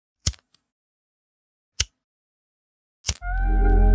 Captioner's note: lighter clicking; soft sensual music